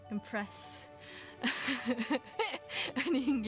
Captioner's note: laughs